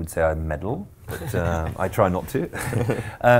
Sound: laughing

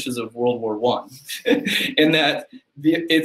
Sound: laughter

